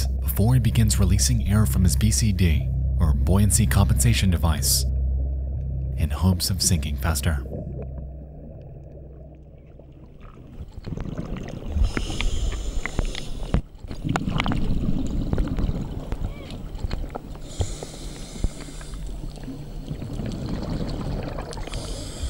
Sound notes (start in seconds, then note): 11.1 water burbling; 11.7 inhales deeply; 14.2 water burbling; 17.4 inhales deeply; 20.5 water burbling; 21.6 inhales deeply